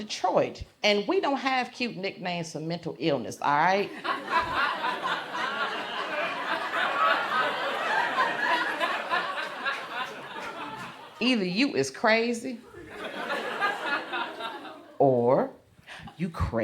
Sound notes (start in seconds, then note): 3.8 crowd laughs